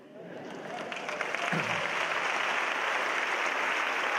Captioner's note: applause